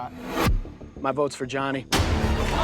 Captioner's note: air whooshing